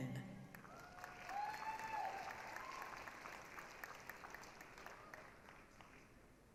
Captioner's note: applause, cheering